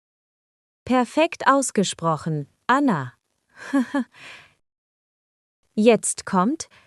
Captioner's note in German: lacht